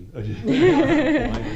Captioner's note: laughter